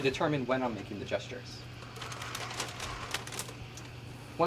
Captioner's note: plastic package rustling